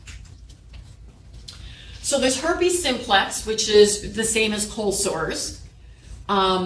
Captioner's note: none